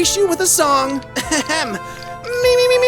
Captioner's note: ahem